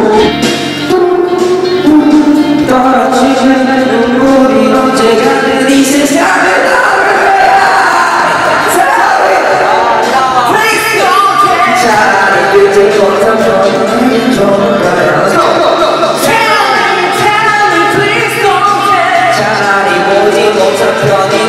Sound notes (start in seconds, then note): 6.5 yelling; 8.1 laughing